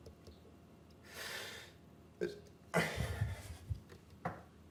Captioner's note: sobbing